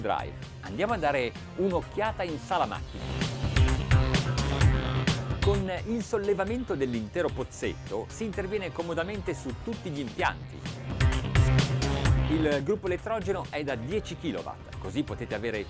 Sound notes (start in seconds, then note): 0.9 man speaks in foreign language; 3.3 funky music; 9.9 funky music